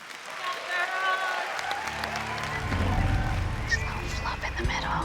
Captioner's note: applause and cheering